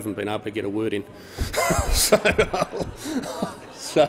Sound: wheeze

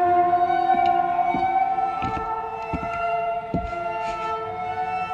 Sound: footsteps plodding

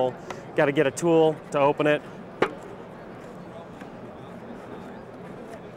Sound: people chatting

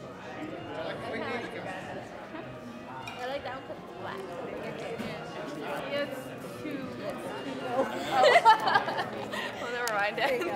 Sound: muted chatter

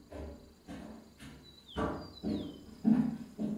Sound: birdsong

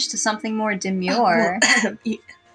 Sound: clears Throat

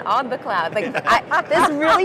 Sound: laughter

